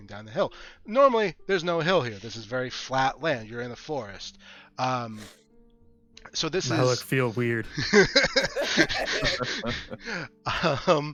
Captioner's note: laughter